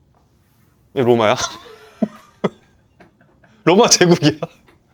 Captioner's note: laughs